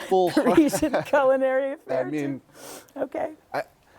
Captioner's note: laughter